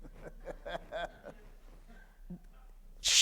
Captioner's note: laughter